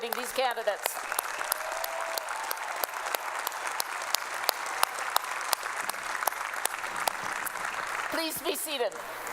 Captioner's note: applause